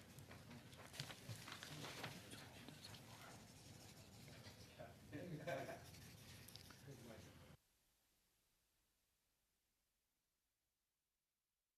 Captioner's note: conversation din